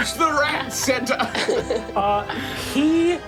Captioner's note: laughs